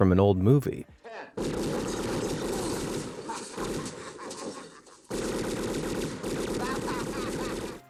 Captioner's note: guns booming; man laughing